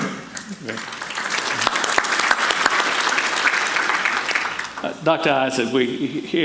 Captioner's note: audience applauding